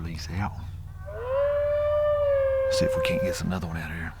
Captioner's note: coonhound hounding